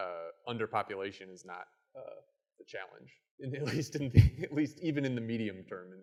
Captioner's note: chuckles